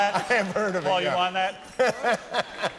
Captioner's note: laughter